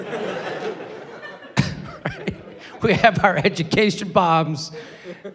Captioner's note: laughs